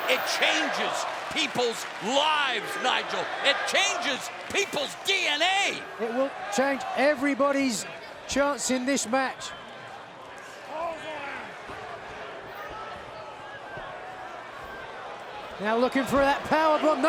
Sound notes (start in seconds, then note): 13.0 fans chattering